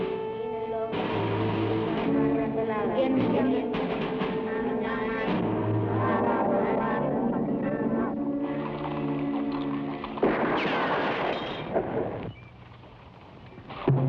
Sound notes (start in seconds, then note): 2.5 people praying in Tagalog; 10.2 glass shatters; 10.3 gunshots blast